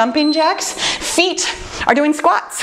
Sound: timer beeps

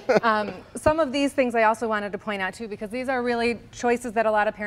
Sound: laughter

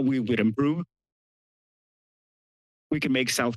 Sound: pause

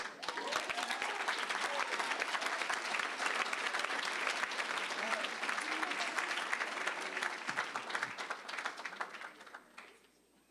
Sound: applause, cheering

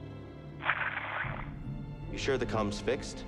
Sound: radio static

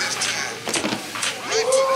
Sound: thump

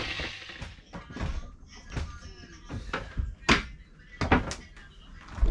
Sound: stairs thumping

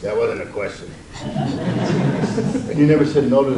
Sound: audience laughs

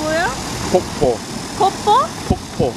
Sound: waterfall

